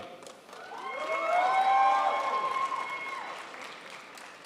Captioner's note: crowd applauds